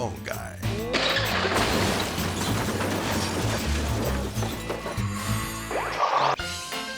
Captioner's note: bricks crashing; rubble clattering; upbeat music